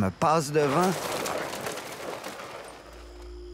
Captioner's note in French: bruissement